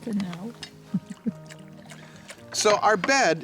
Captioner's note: laughs